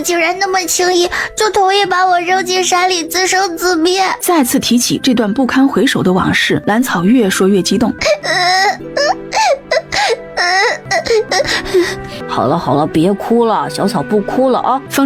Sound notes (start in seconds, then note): 7.9 sobbing